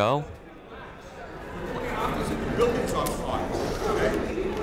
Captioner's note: people talking in the crowd